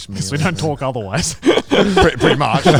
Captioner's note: group laughs